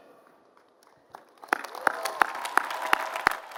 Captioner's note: applause